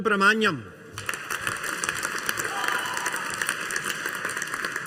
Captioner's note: audience applauding